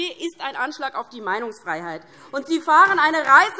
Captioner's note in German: Beifall DIE LINKE, SPD und vereinzelt BÜNDNIS 90/DIE GRÜNEN